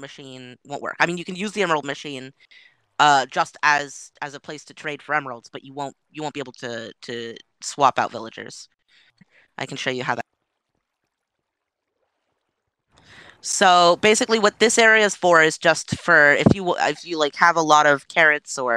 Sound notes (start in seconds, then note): 10.5 audio cuts out